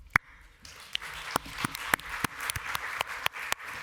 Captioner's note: applause